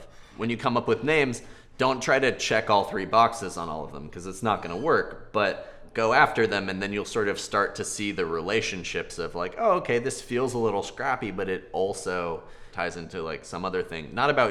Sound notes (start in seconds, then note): none